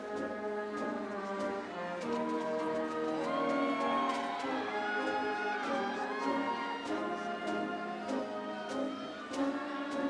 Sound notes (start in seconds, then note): 2.3 audience cheering; 3.1 upbeat ceremonial music